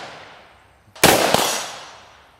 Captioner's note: gun shooting